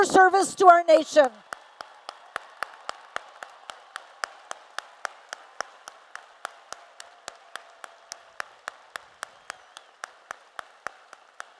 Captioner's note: applause